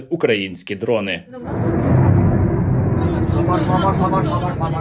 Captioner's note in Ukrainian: вибух